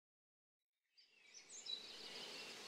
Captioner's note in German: Vogelgesang